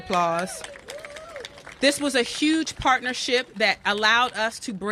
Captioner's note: cheers and applause